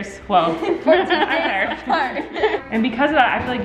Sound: laughs

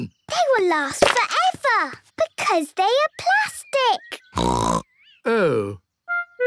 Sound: snorting

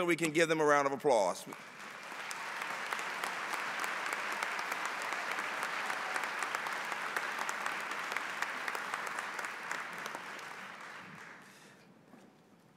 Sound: applause

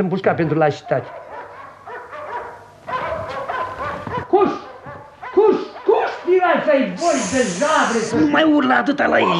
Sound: dogs barking in the distance

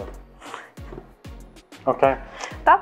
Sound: laughs

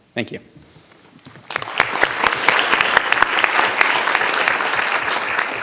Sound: audience applauding

